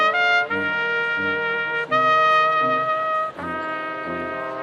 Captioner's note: none